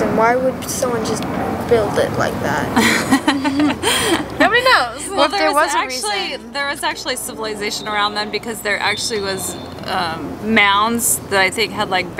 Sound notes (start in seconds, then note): 2.7 laughter